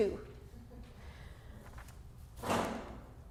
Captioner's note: light Chuckling